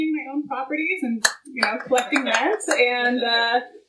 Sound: clapping

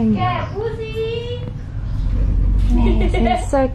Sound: locals speaking

